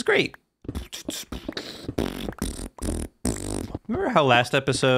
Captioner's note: terrible beatboxing